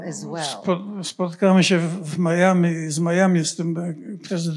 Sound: foreign language

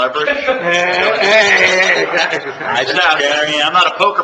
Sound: commission laughing

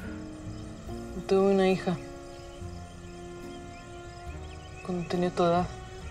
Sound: Lupe speaks in Spanish

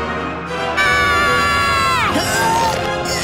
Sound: screaming

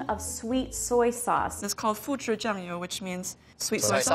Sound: foreign language

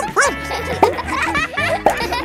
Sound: barks

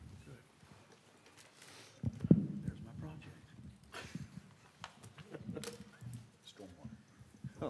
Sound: laughter

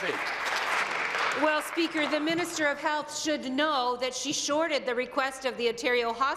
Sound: applause

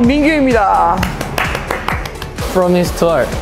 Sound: clap

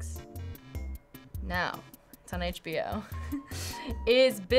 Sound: giggling

